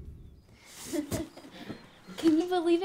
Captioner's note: laughing